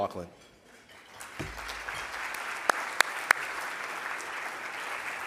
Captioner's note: audience applause